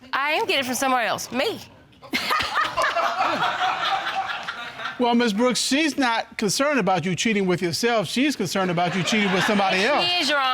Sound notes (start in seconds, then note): 2.1 laughing